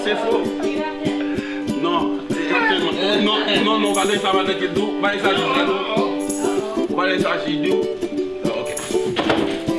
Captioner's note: disagreeing in Creole; arguing in Creole